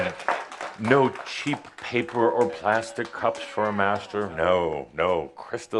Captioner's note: audience applause